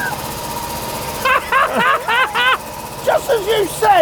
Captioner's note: both laughing